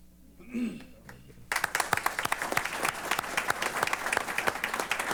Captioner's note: applause